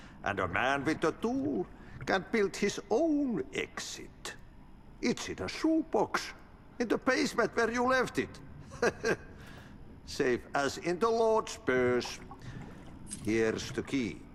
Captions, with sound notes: And a man with a tool can build his own exit. It's in a shoepox, in the basement where you left it. [chuckles] Save as in the Lord's purse. Here's the key.